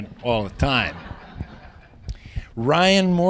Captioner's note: laughter